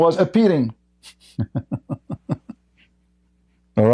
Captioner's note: Ketawa